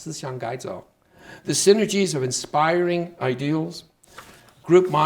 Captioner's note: speaking Chinese